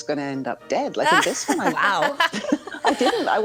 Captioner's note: everyone laughing